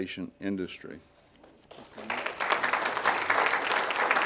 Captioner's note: applause